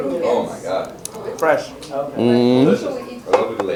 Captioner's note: slurping